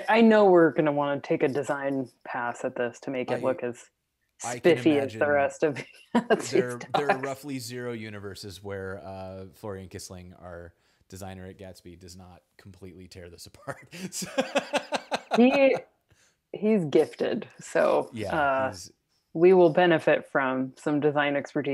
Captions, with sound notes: I know we're gonna wanna take a design pass at this to make it look as spiffy as the rest of the Gatsby docs. - There are roughly zero universes where Florian Kissling, our designer at Gatsby, does not completely tear this apart. (laughs) - He's gifted so we will benefit from some design expertise